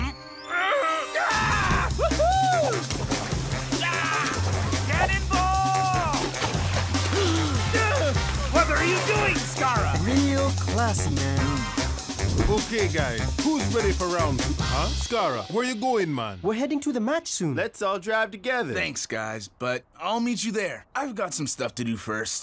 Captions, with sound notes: (screaming) - Woo-hoo! - Yeah! - Canon ball! (gasping) - What are you doing, Skarra?! - Real classy, man. - Okay, guys. Who's ready for round-- Huh? Skarra, where you going, man? - We're heading to the match soon. - Let's all drive together. - Thanks, guys. But I'll meet you there. I've got some stuff to do first.